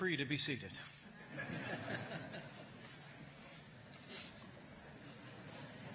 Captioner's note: laughter